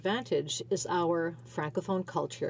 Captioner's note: speaking French